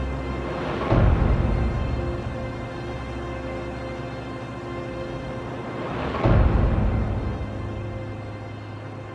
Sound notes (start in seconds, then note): 6.1 explosions